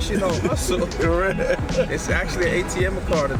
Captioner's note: laughs